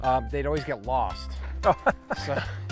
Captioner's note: laughs